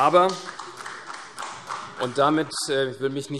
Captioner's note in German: Vereinzelter Beifall CDU